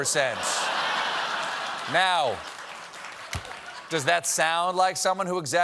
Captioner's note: laughter